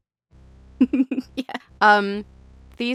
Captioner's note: chuckle